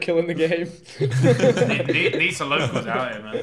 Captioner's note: laughing